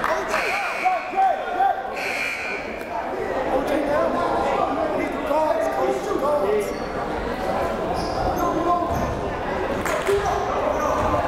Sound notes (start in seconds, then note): 1.1 timer buzzes